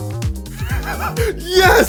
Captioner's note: wheezing